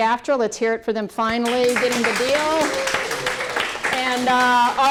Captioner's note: applause